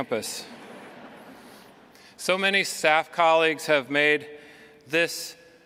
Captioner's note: laughter